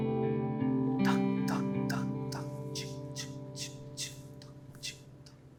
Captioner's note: Ahmed Beatboxing